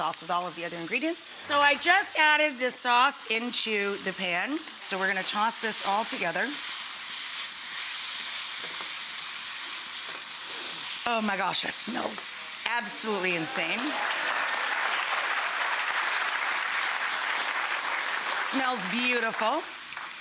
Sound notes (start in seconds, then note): 6.6 food sizzling; 13.6 audience applause